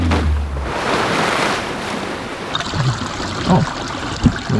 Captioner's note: car zooms; water splashes